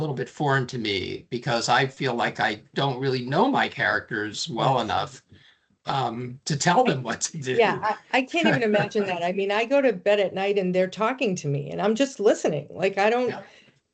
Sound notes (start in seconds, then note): 8.3 laughing